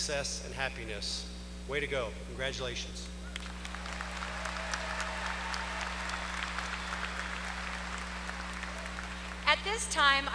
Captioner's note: applause